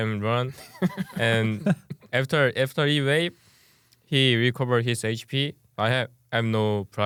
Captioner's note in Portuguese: risos